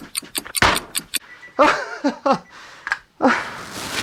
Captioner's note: 3 Minute Alarm Goes Off